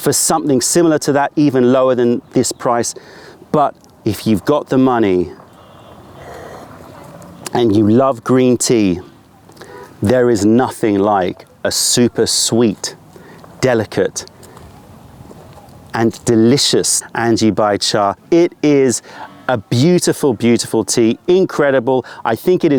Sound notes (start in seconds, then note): 5.1 sips tea